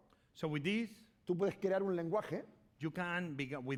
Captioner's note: speaking spanish